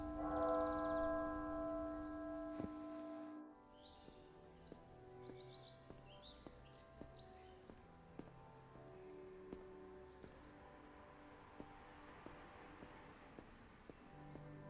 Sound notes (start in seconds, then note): 5.7 birds chirping